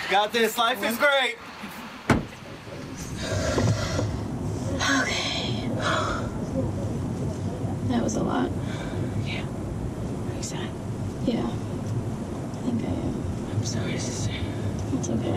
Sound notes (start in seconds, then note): 3.0 sighs